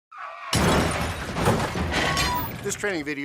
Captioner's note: sounds of vehicles screeching and colliding